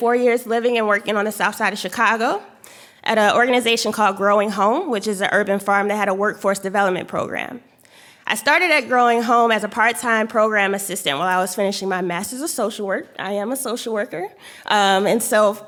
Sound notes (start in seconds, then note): none